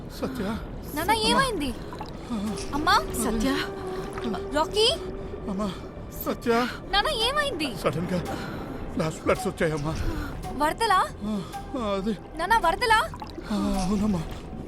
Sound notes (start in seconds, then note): 1.8 gasping